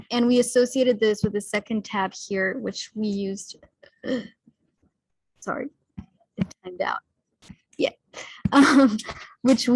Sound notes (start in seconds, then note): 4.1 clears throat; 8.5 laughs